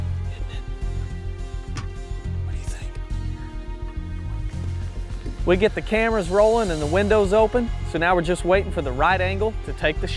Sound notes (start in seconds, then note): 0.6 whispering